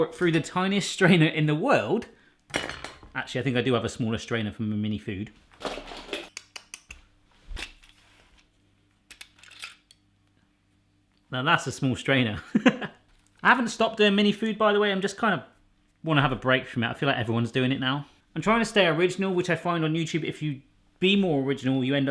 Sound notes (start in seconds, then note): 6.1 clicking; 13.0 laughs